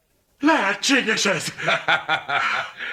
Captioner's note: Baker laughs